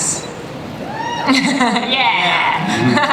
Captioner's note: cheers from audience; laughs